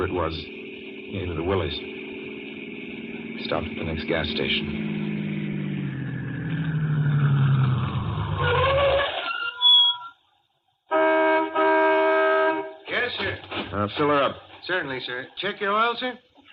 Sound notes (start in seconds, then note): 7.4 tires screech; 10.9 horn honks